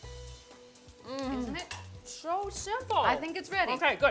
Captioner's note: moans